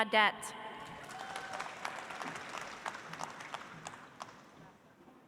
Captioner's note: audience applauds